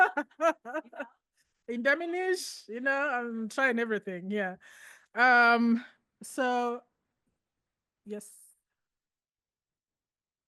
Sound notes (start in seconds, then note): 0.0 laughs; 1.9 speaking in foreign language